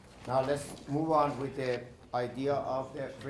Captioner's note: shuffling Papers